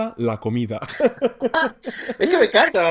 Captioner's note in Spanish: risas